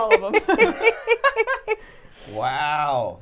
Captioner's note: all laughing